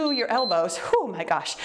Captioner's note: timer beeps